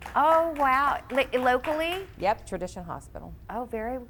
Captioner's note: audience applauds